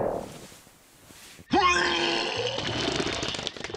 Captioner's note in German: Kotzgeräusch